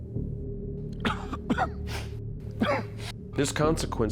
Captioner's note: Jack coughing